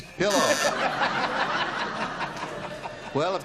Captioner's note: laughter